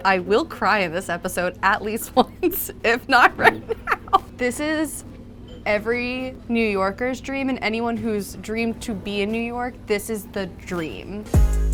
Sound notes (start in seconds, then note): 2.9 laughs